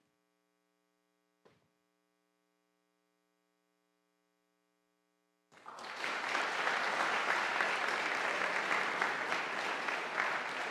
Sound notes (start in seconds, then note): 5.5 audience applauding